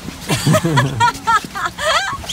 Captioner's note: laughter